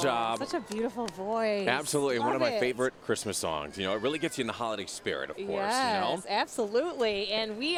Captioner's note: cheering